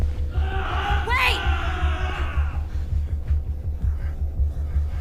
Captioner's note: men groaning